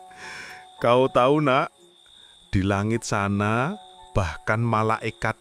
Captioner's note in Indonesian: terkesiap